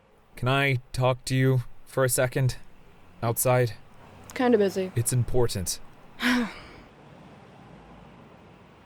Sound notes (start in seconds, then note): 6.1 sighs